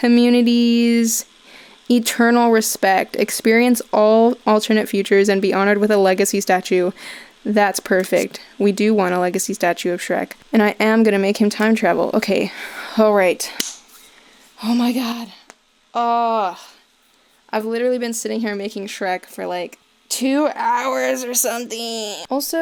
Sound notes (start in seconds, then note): 13.5 cracks joints in back; 13.6 claps once; 14.2 sighing in relief